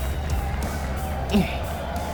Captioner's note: screamer